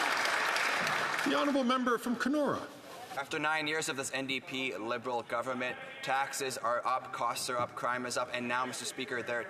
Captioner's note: some Applause